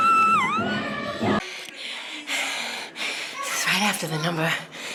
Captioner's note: laughs